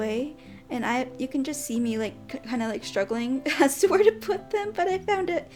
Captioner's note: giggles